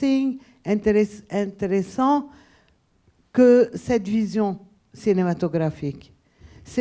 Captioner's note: speaking a foreign language